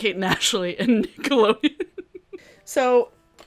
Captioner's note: laughs